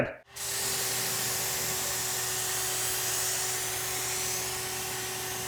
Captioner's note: spray paint spritzing